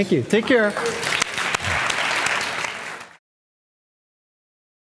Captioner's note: audience applauding